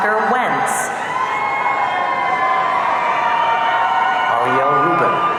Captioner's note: audience cheering